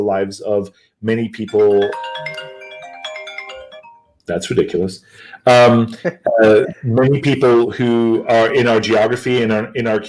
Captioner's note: phone rings